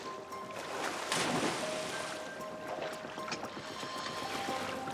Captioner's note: water splashing